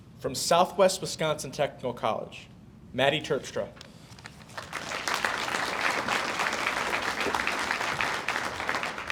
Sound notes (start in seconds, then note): 4.4 audience applauds